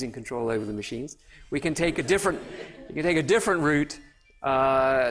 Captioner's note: laughter